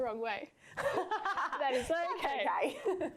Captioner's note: laughing